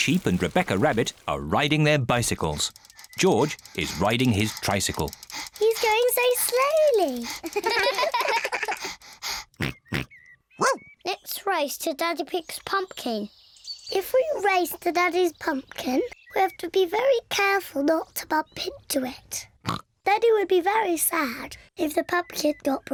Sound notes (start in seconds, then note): 7.4 all laugh; 7.6 george panting, snorts; 18.4 snorts